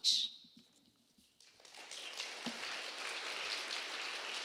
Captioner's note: applause